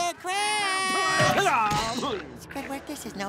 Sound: groaning

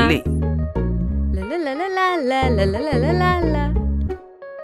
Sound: Subhadra humming in excitement

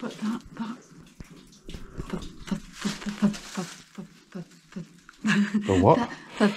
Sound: laughs

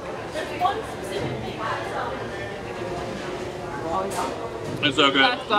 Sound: indistinct background chatter

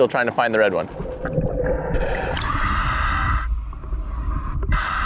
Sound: scuba breathing

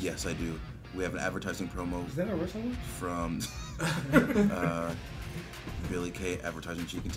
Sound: laugh

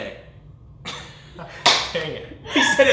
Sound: laughs

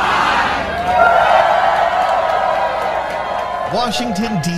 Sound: group cheering

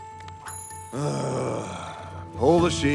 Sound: clinking; Maui groans

